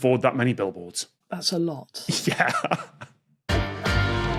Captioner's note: laughs